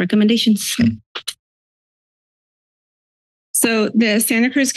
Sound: silence

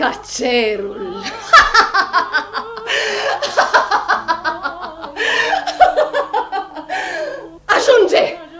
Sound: Larisa laughs heartily

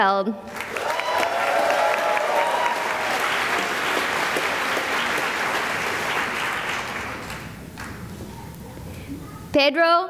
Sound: cheering and applause

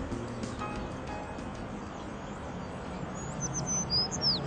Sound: birds chirping

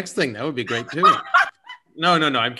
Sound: laughter

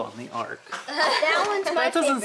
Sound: laughing

